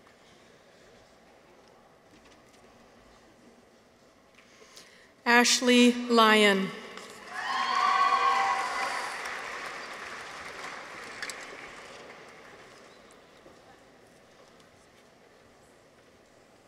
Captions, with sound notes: Ashley Lyon. -(people cheer) -(audience applauds)